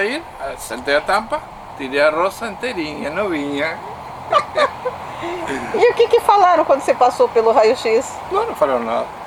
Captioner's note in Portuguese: risos